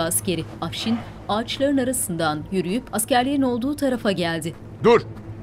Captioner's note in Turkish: Ayak sesleri